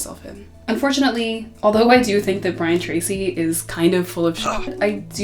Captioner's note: grunt